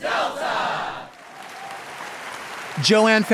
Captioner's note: audience applauding